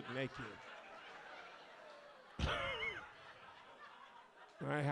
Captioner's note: audience laughs